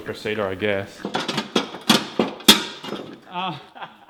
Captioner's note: clanking noises; laughing